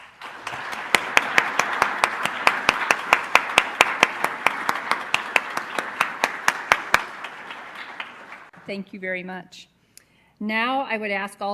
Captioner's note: applause